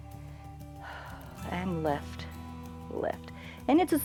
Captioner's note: exhales